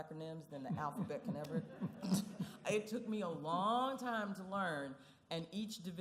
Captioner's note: laughing